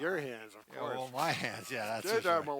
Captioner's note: scoffs